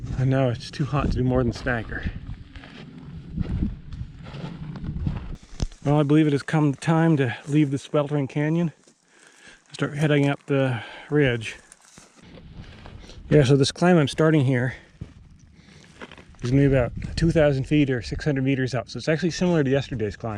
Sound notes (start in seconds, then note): 3.0 footsteps thumping